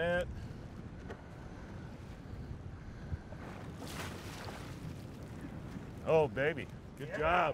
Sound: fish splashing

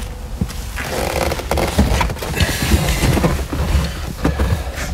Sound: leather creaks

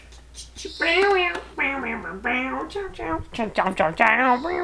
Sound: mimics Cha Cha music; Tracy mimics guitar

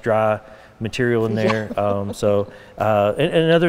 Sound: laughing

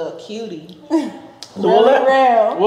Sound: chuckling

